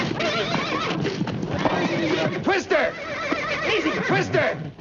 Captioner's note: horse neighing